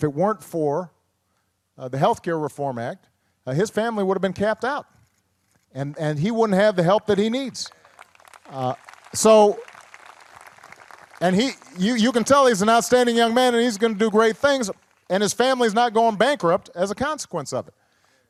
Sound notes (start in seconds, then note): 8.6 applause